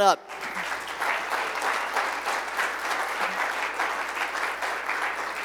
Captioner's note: applause